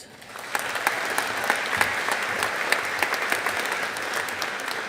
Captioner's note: audience applauding